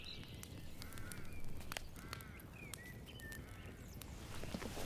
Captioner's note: birds chirping